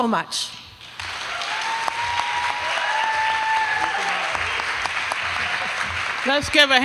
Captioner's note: applause